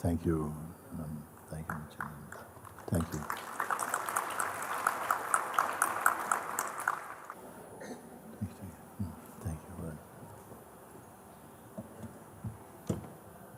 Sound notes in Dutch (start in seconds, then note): 4.0 applaus